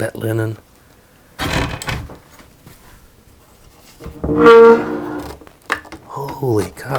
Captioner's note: opening and closing wardrobe